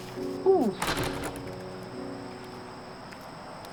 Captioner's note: sighs